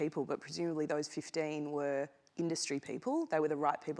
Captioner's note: none